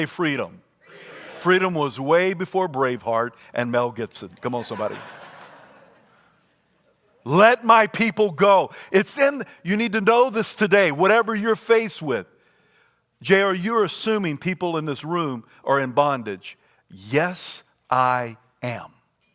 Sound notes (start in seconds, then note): 4.4 congregation laughs